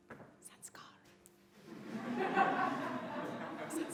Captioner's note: whispers